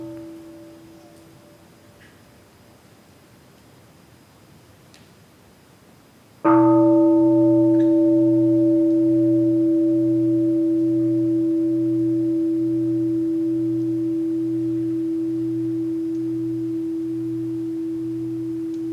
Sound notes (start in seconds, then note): 6.5 the bell is invited to sound